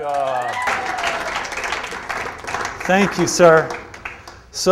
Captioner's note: applauding